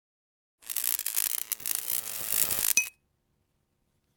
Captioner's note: electric zapping